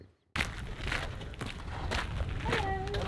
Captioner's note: footsteps